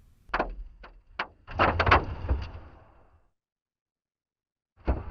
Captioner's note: clicking